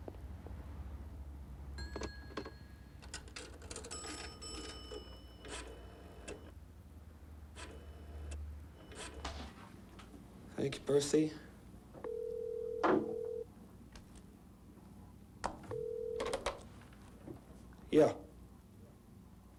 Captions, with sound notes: (telephone line beeping) - Thank you, Percy. (telephone ringing) Yeah?